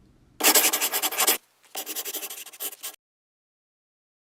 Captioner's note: scribbling